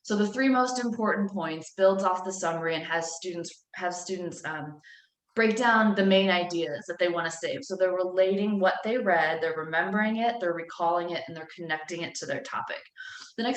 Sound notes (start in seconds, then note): none